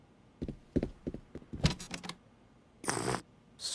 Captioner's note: slurps